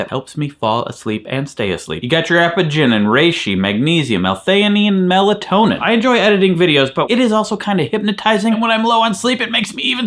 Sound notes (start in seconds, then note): none